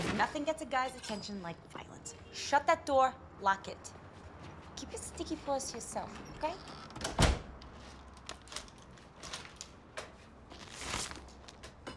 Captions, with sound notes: Nothing gets a guy's attention like violence. Shut that door. Lock it. Keep your sticky paws to yourself, okay? (door clicks)